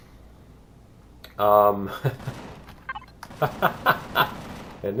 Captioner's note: laughs; cannon turret firing